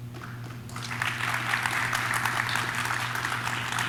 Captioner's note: audience claps